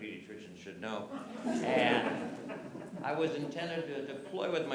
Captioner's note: laughter